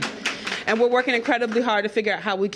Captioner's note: applause